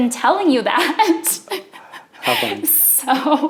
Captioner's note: laughs